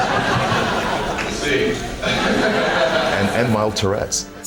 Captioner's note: audience Laughter; more Audience laughter